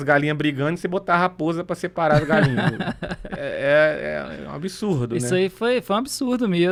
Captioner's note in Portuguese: risadas